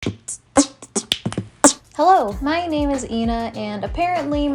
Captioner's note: beatboxing